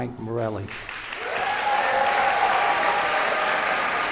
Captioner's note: cheers and applause